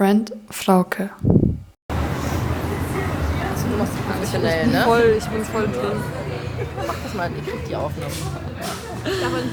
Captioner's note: speaking in foreign language